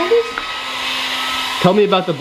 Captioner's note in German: Maschine wirbelt